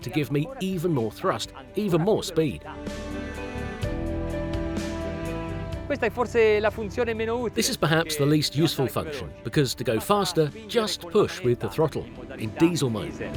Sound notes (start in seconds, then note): 6.2 speaks in foreign language